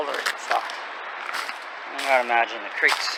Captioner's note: footsteps crunching dry grass and branches